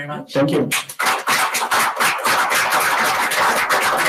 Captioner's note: applause